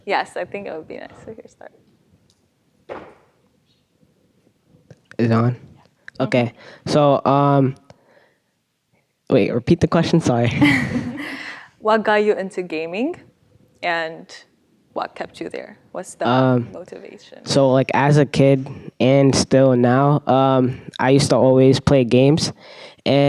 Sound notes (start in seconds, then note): 10.5 laughs